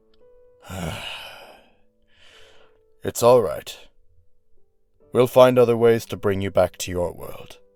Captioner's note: sigh